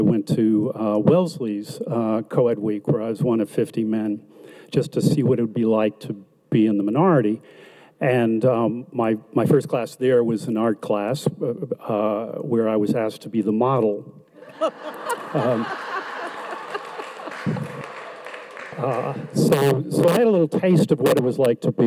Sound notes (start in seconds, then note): 14.4 audience laughs